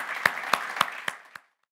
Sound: audience applauds

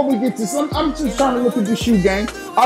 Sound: laughs

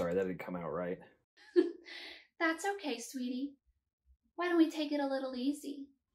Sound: giggles

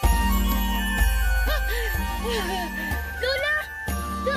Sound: Ester gasps

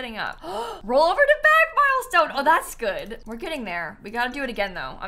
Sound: gasps

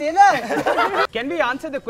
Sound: laughter

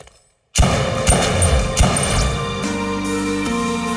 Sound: gun firing; dramatic music

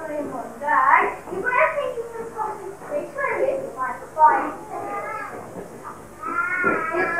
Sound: laughs

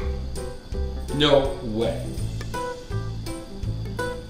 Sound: voiceover

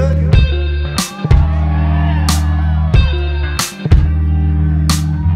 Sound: audience cheers

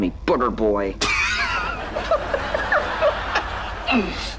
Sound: laughing

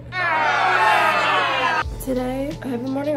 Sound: crowd chattering

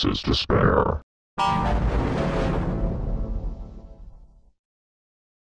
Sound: 6-Eyed Devil Windows XP Shutdown Sound

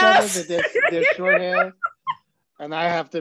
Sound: laughs

